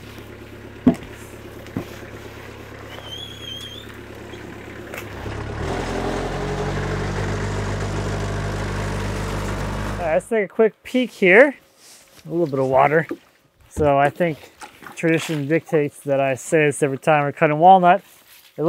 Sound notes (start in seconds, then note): 6.6 telehandler engine rumbling